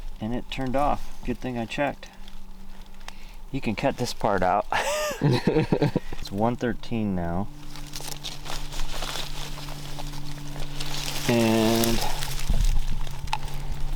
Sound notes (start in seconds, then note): 4.7 both laugh